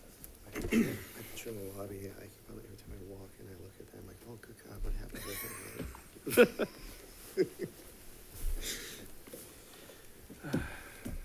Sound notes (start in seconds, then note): 1.7 speaker speaking faintly; 6.2 both giggle